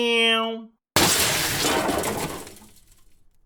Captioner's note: crash